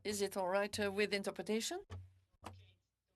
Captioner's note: speaking French